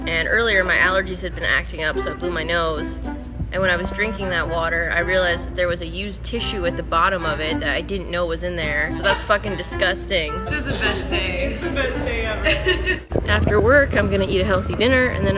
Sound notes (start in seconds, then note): 12.6 laughs